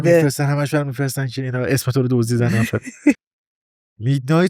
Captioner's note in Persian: خنده